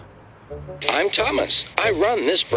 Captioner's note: through a voice box